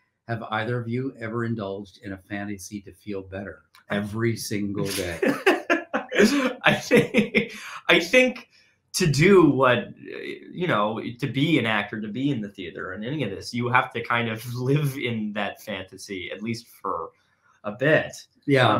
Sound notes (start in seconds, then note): 3.9 laughing